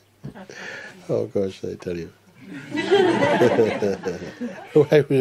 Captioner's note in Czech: smích